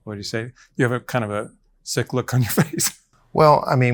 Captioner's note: laughs